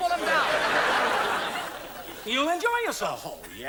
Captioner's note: audience laughs